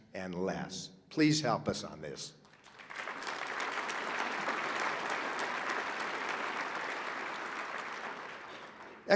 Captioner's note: applause